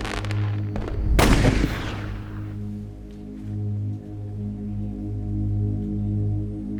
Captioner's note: fireworks booming; gunfire booming; pensive music